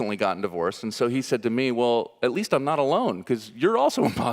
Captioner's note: audience laughing